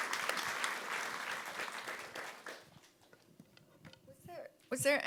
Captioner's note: audience applauding